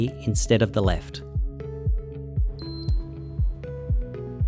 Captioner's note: faint beeping